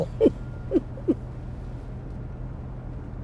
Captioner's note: laughs